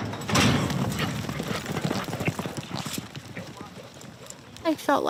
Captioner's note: gates clanking; horse hooves cantering